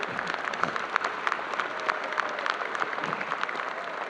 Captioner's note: audience applauding